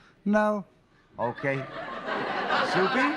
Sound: laughter

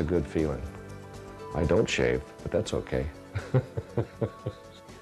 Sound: laughter

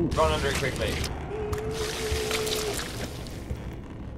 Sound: loud squelching

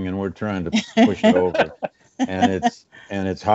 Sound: laughing

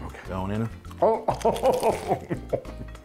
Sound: laughing

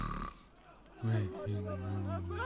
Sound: snore

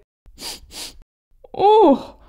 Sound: sniff! Sniff!

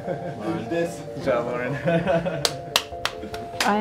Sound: laughter, clapping

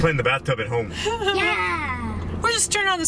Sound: laughs

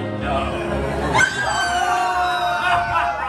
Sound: scream; evil laughter

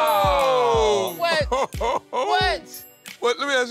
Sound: laughs

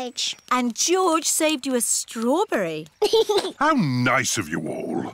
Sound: giggles

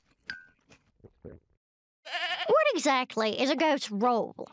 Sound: bleats

